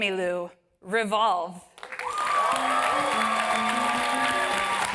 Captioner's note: applause